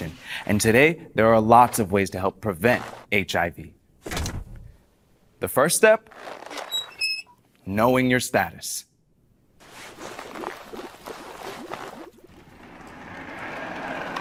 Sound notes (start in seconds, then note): 6.0 helmet squeaks; 9.6 water burbles